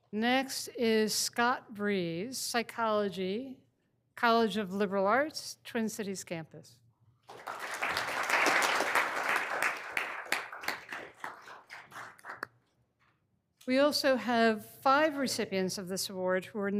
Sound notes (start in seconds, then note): 7.2 all applauding